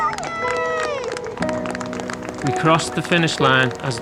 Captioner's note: yelling